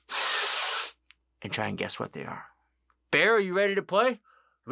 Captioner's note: sniffing noise